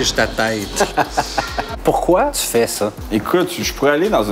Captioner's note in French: rires